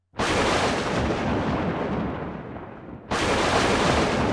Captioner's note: thunder